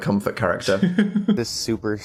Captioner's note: Phil laughs